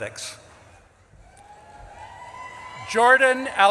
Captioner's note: audience claps and cheers